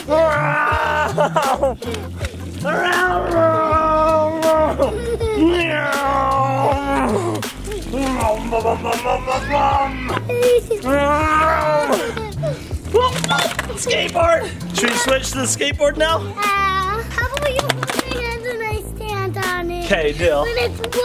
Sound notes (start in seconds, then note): 0.3 vroom; 3.8 vrooms; 11.8 laughs